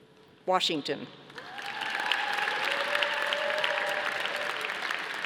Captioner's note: audience applauding